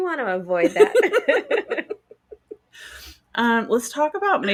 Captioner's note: both laughing